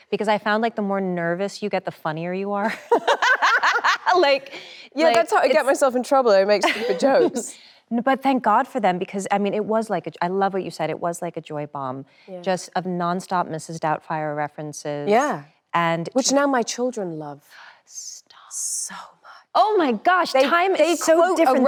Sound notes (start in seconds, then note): 2.7 both laugh cheerfully